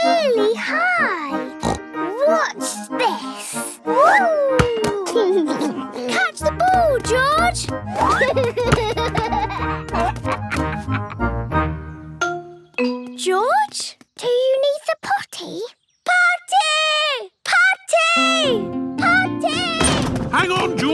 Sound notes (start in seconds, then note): 1.6 snorts; 8.0 giggles